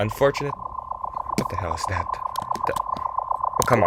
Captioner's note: blue particle sound